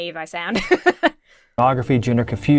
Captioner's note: laughs